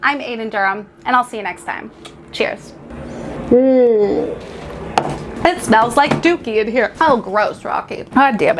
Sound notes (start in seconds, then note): 1.7 makes clicking sound; 5.0 hands slap table